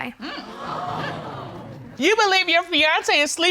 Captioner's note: audience gasps